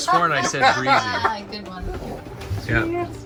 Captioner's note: laughs